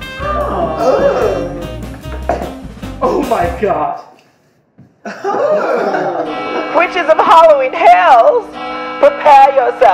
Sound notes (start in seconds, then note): 5.8 bells chime